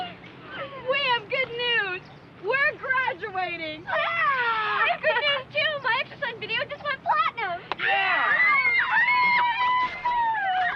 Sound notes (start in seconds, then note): 7.8 screaming and cheering